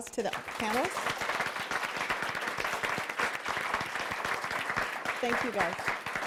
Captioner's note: applause